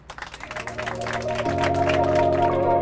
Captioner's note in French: Applaudissements